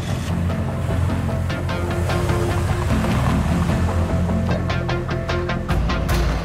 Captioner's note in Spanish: Ruido del vehículo